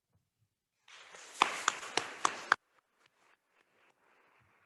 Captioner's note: attendees applauding